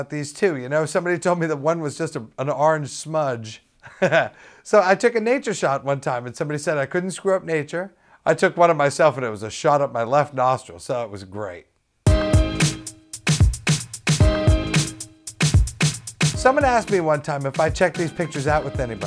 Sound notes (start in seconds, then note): 3.8 laughs; 11.9 bumper music